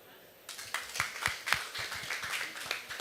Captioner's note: applause